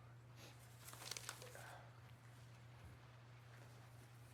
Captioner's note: paper rustling